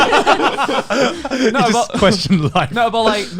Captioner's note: laughing